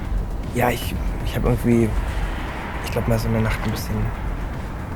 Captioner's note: Moritz speaks in German; Jonas speaks in German